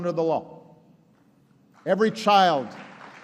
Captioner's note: applause